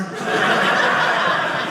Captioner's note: audience laughing